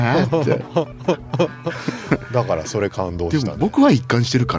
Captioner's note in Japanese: 笑い